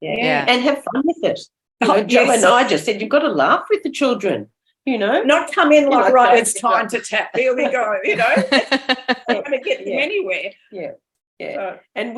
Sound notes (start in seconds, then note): 7.4 laughter